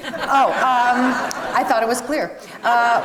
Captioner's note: audience laughs